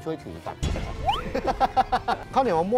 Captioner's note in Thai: เสียงหัวเราะ